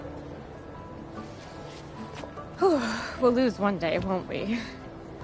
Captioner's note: exhaling sharply